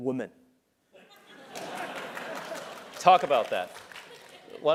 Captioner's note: laugh; applause